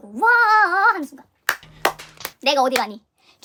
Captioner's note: 박수